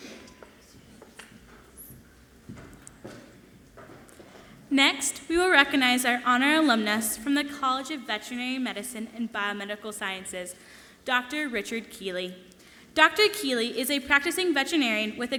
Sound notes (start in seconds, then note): 0.6 speaking away from mic